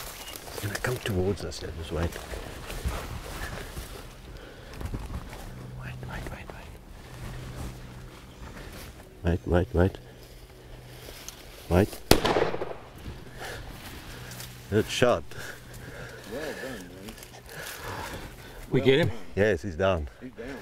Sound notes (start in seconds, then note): 12.0 gunshot